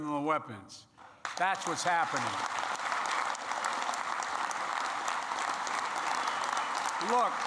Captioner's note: applause